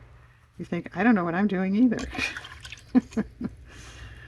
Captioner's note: laughs